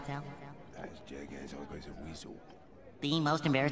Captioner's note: Mr. Crabs whispering